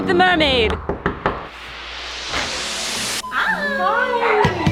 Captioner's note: door knocking